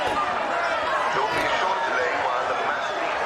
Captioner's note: man over speakers